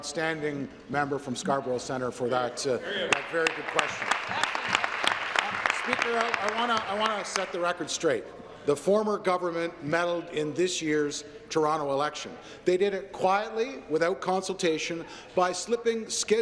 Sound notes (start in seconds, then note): 7.2 applause